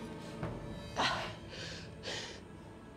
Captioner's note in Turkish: İnleme sesi